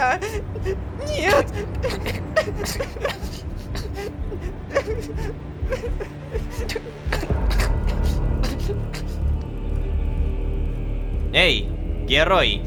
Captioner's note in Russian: Плач беженки